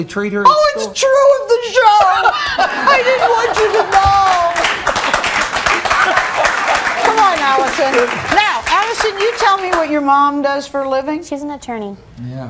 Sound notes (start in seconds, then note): 2.1 everyone laughing; 4.5 audience clapping